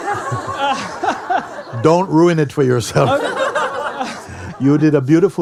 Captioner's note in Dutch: gelach